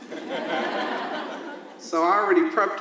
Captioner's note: audience laughs